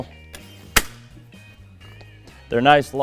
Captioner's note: leg clicks